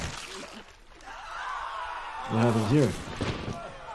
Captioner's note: group screams